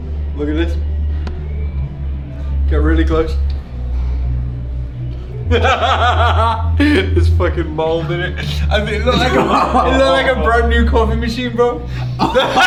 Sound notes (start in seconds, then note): 5.5 laughs; 9.0 laughing